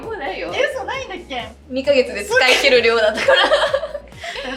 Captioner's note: laughs